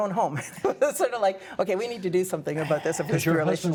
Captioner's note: laughter